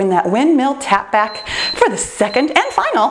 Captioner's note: timer beeps